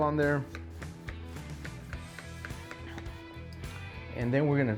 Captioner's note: Parkay hissing and clattering